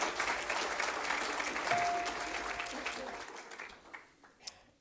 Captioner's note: audience applauds